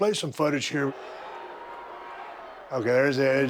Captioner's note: audience booing